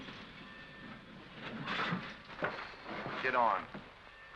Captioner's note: train clatters